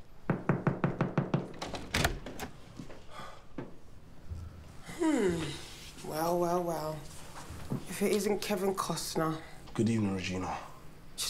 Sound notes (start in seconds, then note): 0.9 door clattering